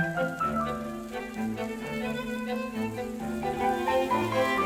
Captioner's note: food sizzling